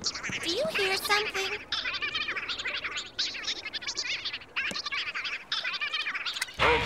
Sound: squeaking

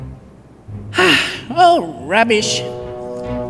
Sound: sigh

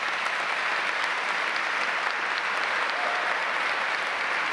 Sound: audience applauds

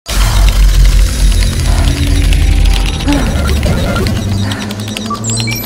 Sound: computerized sounds and woman panting

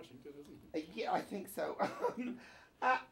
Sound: laughs

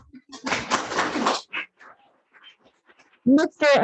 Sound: audience applauds

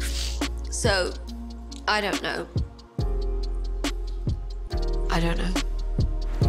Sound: sniffles

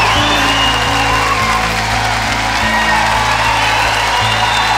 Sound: audience clapping; audience cheers

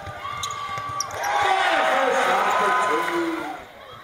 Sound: cheers

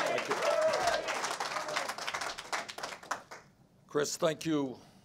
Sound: applause

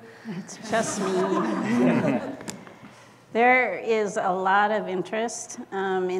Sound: laugh

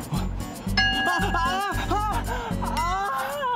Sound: laughing

